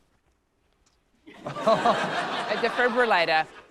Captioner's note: laughter